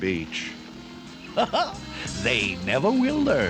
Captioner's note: laughs